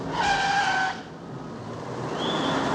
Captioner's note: squealing tyres